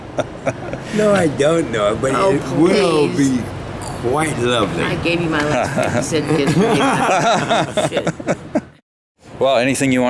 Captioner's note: all laughing; all laughing